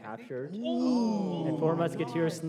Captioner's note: exclamations